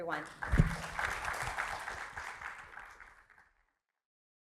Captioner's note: audience applauding